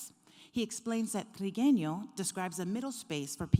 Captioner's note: speaking foreign language